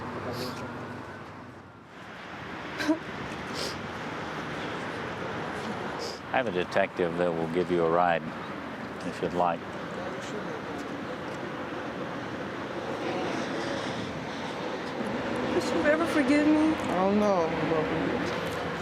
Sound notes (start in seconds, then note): 2.6 crying